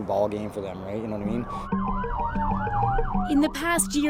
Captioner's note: siren